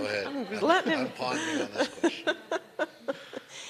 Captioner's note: laughing